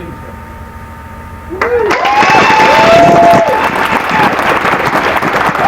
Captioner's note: applause